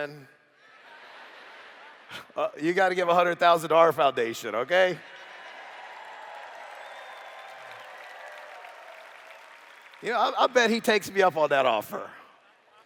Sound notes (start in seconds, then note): 0.6 laughter; 4.5 cheers